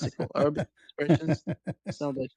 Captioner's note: ketawa